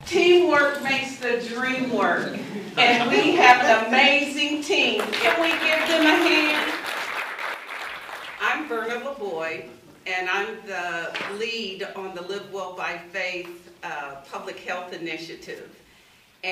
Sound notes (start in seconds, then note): 7.0 applause